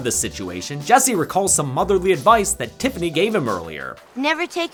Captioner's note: none